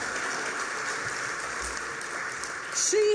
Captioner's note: applause